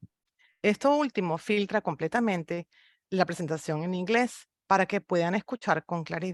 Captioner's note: speaks in foreign language